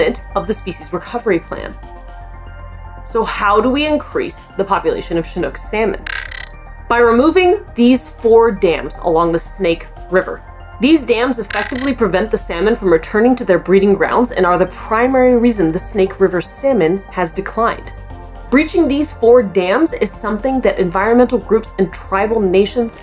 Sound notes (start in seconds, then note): 2.0 background music; 6.0 background music; 6.0 glitch sound effect